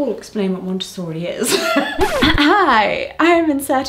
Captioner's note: needle scratching; laughs